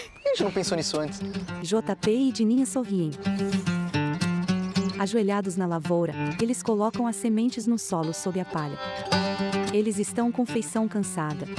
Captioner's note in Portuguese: Pássaros